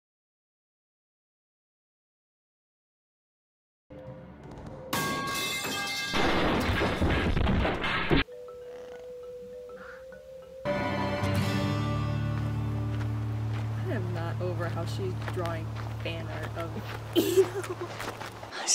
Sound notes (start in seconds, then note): 4.9 metal pipe falling; 6.2 car crash; 17.1 laughs